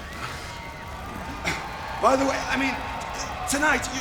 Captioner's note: crowd cheering